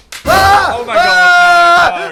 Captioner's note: screams